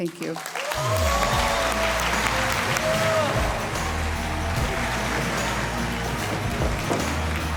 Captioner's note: audience cheering; cheerful music